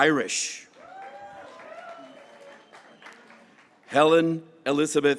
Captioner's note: graduates cheering